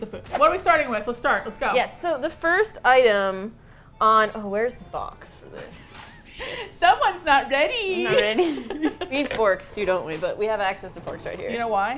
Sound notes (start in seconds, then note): 7.9 laughs